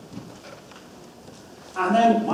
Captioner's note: audience murmurs